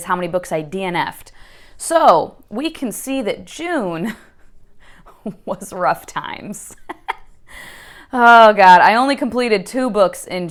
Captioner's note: laughs